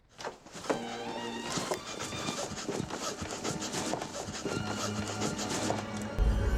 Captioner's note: heavy breathing